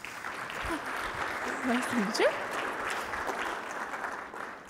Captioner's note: applause